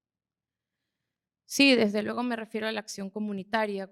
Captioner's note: speaking spanish